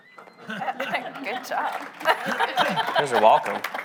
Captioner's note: audience laughing; laughs